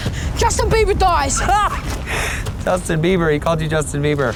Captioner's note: Deadpool laughs